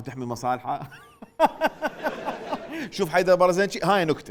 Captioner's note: fake laughing